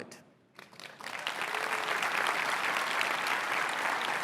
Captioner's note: applause